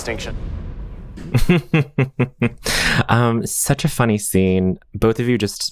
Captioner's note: laughing